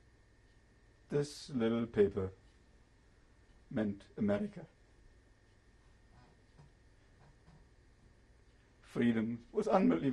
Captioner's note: pauses for 3 seconds